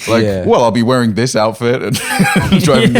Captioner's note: laughing